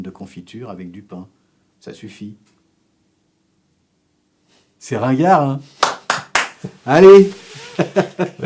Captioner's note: applause; laughs